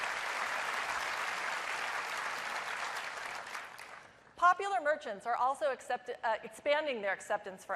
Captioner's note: applause